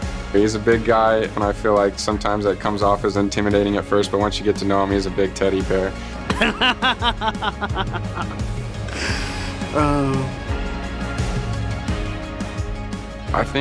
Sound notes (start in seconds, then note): 6.3 laughs; 10.7 upbeat music